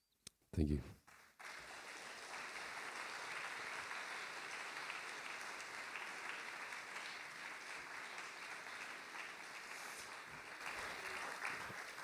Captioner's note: applause